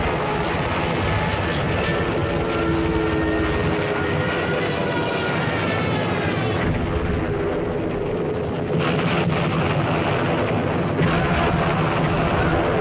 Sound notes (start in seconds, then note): 5.9 explosion booms; 8.8 explosions booming